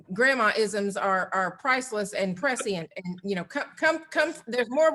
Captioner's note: laughs